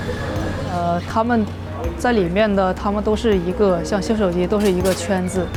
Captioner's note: speaking foreign language